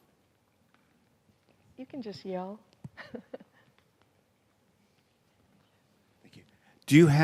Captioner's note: chuckles